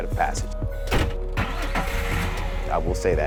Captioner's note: engine rumbling